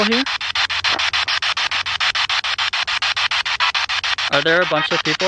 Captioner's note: spirit box sound